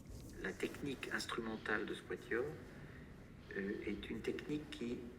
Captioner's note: non-english speech